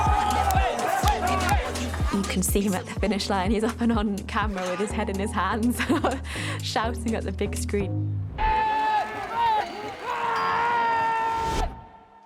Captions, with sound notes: [CROWD CHEERING] You can see him at the finish line. He's often on camera with his head and his hands, shouting at the big screen. [YELLING]